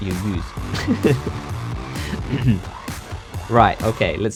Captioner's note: chuckles